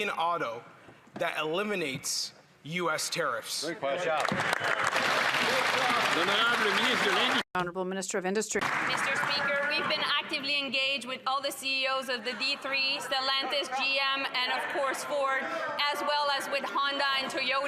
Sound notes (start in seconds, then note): 8.6 some Applause; 10.4 speaking French